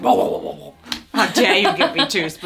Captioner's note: mimicking food scoffing